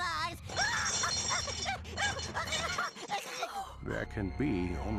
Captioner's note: laughing hysterically